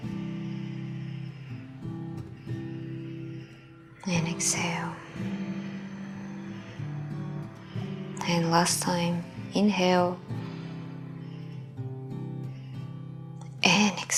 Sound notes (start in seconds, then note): 0.2 inhaling; 5.4 exhaling; 10.0 inhaling